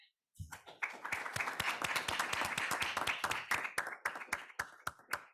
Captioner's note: audience applauds